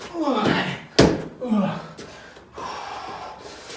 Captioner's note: grunts